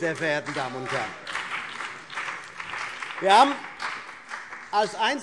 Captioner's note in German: Beifall CDU und BÜNDNIS 90/DIE GRÜNEN